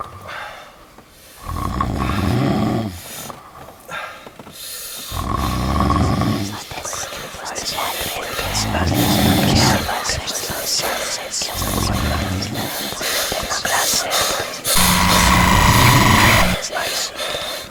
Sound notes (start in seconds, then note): 6.8 ghostly whispering; 14.8 intense music